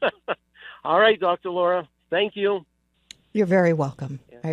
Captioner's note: laughs